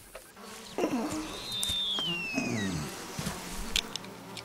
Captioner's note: Birds Shrieking